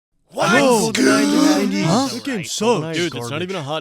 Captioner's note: crowd murmurs